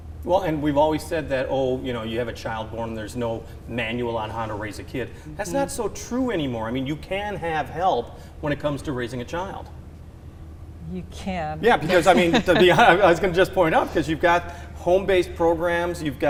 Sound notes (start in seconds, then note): 11.7 laughs